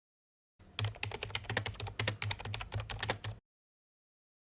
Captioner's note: typing